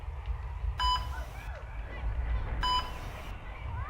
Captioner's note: beeping